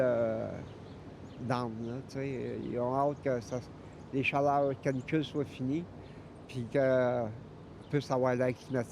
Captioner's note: speaking French